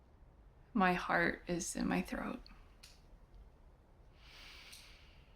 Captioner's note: inhaling